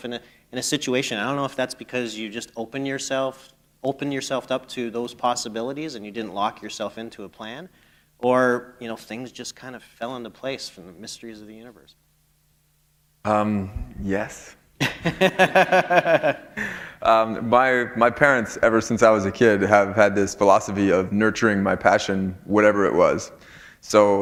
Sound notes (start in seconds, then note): 15.6 chuckle